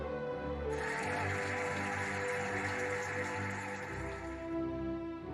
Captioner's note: cheering and applauding